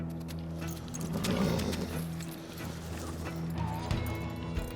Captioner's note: suspense music; horse blusters; suspense music